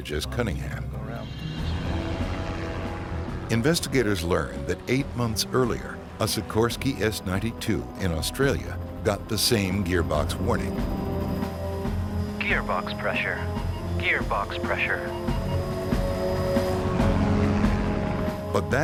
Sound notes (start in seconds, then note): 1.6 airplane engine roaring; 1.6 sinister music; 11.2 sinister music; 11.2 sirens; 15.9 airplane engine roaring; 15.9 sinister music